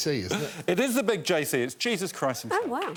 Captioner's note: laughter